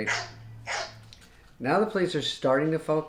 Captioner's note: dog barking sound effect